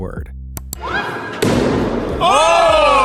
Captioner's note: axe thuds